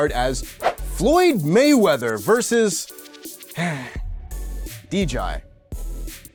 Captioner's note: sigh